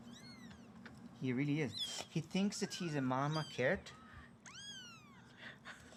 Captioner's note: laughs